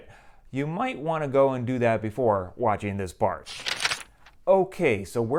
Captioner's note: page turn